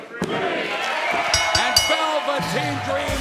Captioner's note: cheers and applause; bell ringing